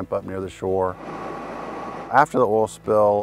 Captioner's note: helicopters whirring